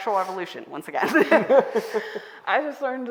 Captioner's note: all laughing